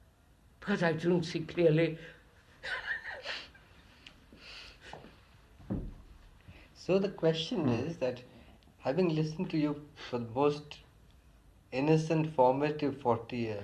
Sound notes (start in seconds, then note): 2.6 laughs